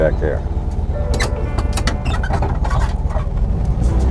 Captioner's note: bus clanging